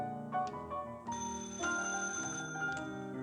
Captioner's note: phone ringing